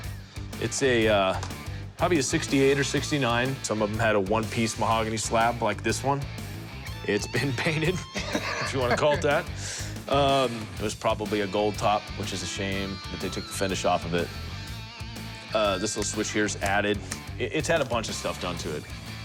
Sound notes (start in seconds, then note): 7.9 laughs